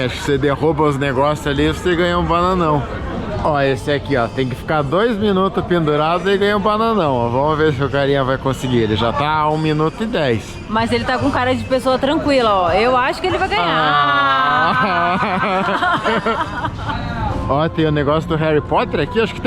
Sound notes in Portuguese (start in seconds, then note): 14.4 risos